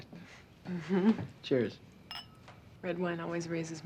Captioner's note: giggles